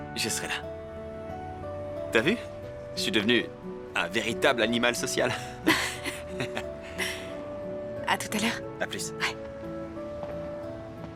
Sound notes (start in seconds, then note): 5.6 chuckling